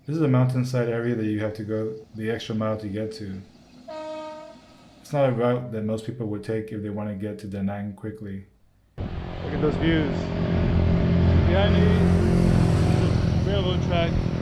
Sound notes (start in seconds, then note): 3.8 train horn blasting; 9.0 motorcycle engines roaring